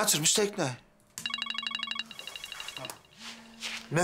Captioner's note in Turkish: telefon çalıyor